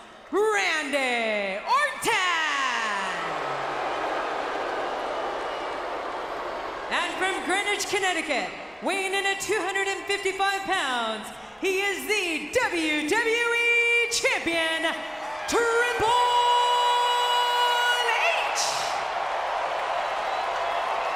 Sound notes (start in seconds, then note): 2.5 crowd boos; 18.7 crowd cheering